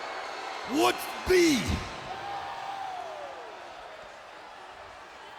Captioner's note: crowd clamoring